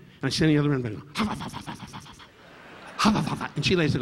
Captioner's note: audience laughing